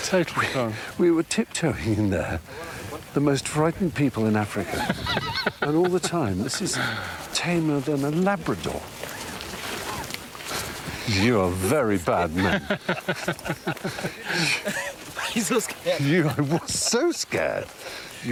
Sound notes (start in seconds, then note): 12.1 laughs